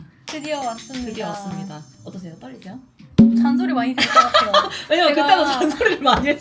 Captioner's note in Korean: 웃음